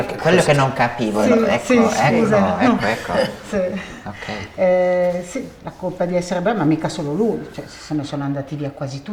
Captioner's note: chatter